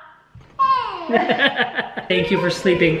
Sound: laughs

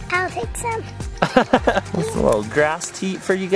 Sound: laughing

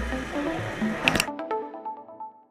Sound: click, Click Sound

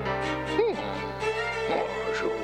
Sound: gasps

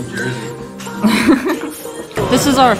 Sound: giggles

